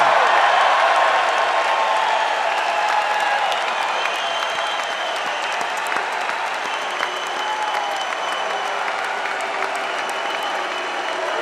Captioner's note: applause